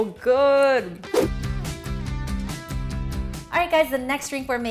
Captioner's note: air whooshing